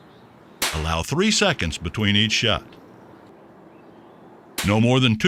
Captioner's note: gun firing